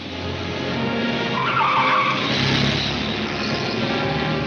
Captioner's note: car wheels screech